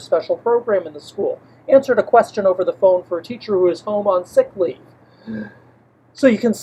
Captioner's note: deep breath